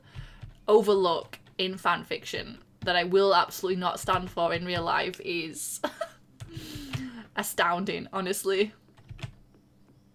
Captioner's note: laughs